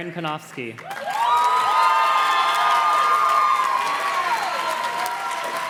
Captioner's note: audience cheers and claps